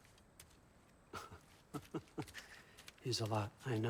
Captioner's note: laughs